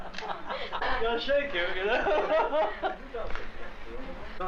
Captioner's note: laughter; laughing